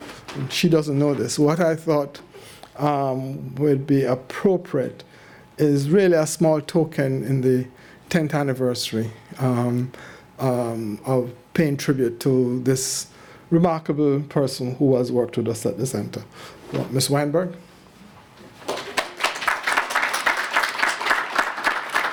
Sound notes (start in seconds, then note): 18.6 applause